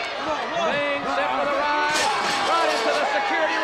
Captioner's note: crowd cheering; Sting thudding into railing